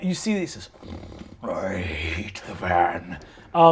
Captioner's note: growls